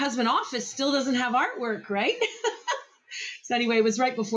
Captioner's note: laughs